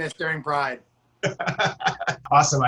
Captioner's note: laughter